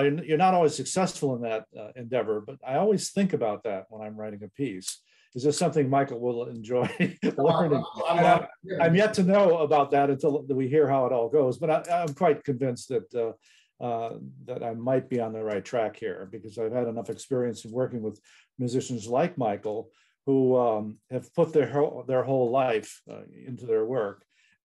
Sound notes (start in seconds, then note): 6.7 laughs